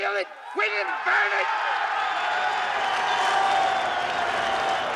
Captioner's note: crowd cheering